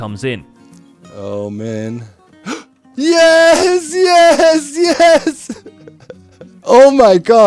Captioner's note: shouting